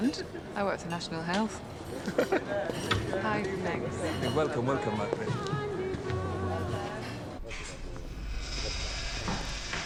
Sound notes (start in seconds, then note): 2.0 chuckles; 5.4 indian music playing